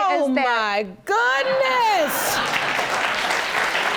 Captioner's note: audience laughs